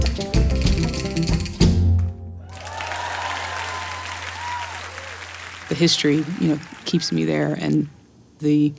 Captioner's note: applause